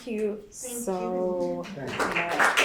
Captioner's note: applause